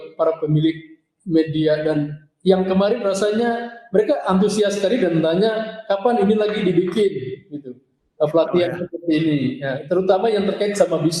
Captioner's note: speaking indonesian